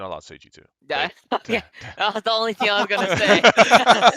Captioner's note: laughs